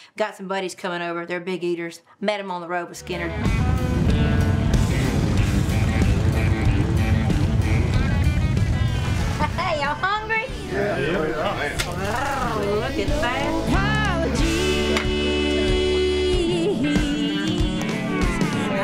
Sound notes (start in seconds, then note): 4.2 motorcycle engines roaring; 12.4 purrs